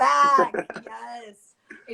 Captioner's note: laughs